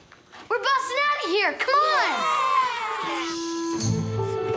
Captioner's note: boys cheer